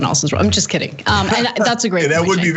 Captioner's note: laugh